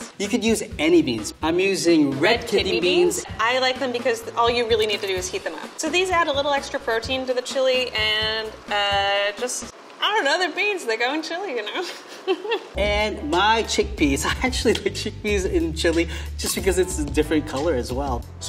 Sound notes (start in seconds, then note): 11.8 laughs